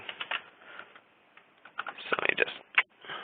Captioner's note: keyboard clicking